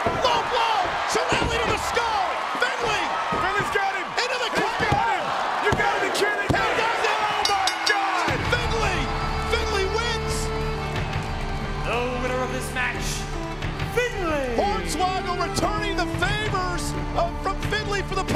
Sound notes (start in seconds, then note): 2.1 crowd cheer; 7.2 bell rings; 10.2 irish music